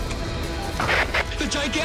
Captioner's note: walkie-talkie feedbacks